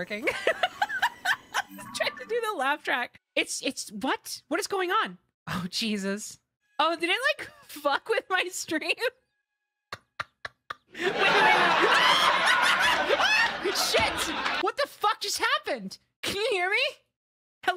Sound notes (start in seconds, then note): 0.2 laughter; 9.9 laughter; 9.9 very Loud Laugh Track